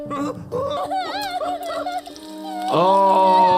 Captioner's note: cub crying